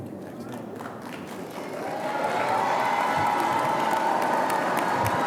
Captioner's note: audience applauding